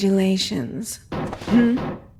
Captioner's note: door knocks